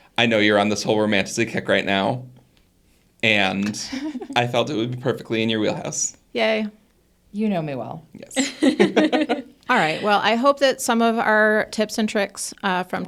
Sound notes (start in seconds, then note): 8.4 all laugh